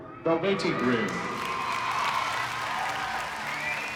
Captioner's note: crowd cheering, clapping